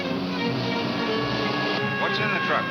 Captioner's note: siren wails